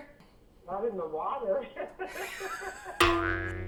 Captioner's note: laughs